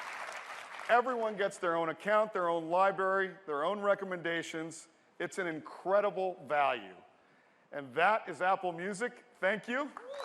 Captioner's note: applause